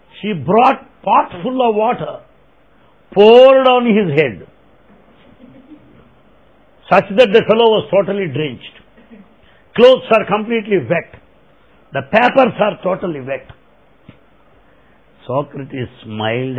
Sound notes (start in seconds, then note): 5.1 laughter